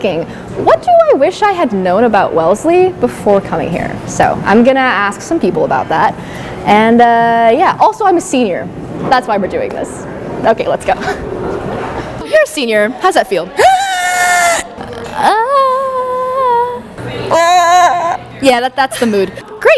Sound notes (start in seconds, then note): 13.6 screaming montage